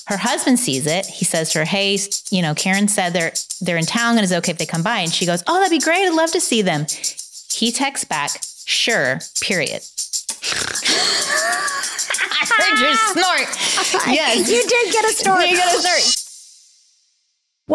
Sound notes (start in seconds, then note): 10.3 snorts; 10.7 laughing